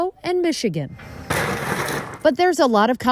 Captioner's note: metal crashing